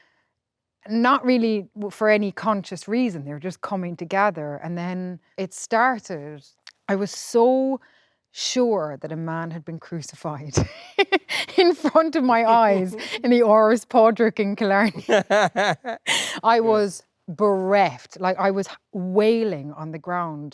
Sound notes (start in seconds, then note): 10.6 laughs; 14.8 both laughing